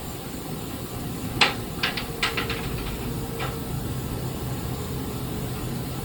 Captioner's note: floorboards continue creaking